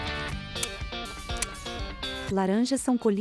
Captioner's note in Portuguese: Estalos